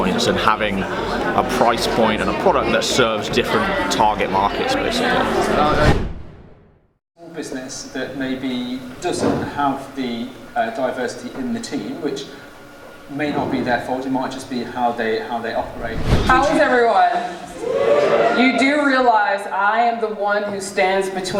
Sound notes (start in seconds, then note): 6.1 air whooshing; 15.5 air whooshing; 17.4 faint cheers